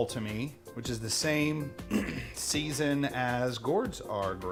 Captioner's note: clearing throat